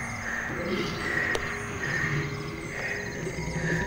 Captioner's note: animal growling